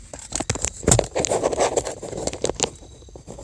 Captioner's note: scrounging